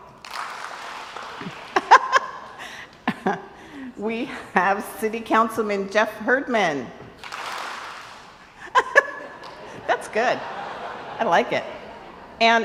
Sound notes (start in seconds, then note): 0.0 crowd applauds; 1.3 laughs; 7.2 crowd applauds; 8.5 laughs